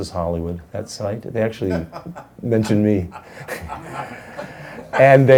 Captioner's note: woman laughs; man laughs; laughs